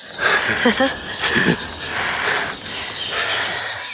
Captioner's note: laughing